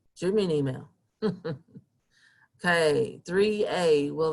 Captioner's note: chuckling